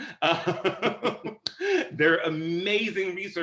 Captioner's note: laughter